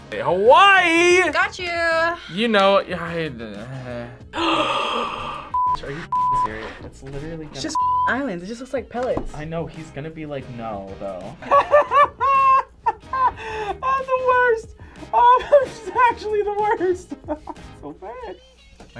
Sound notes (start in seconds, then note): 3.6 gasps; 11.4 laughs; 16.5 laughs